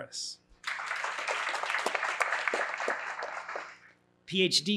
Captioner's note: applause